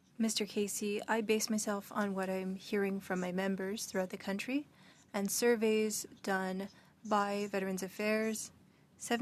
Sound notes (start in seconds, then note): 6.0 speaking French